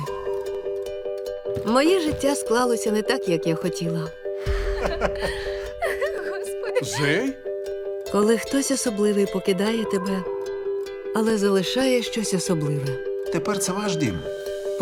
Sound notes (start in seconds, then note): 4.4 sighs; 4.4 laughter